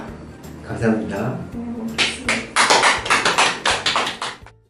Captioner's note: claps~